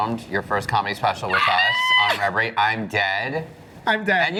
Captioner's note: squeals